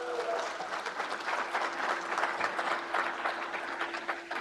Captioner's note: crowd applauds